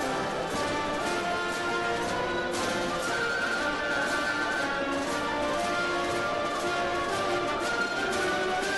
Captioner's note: applause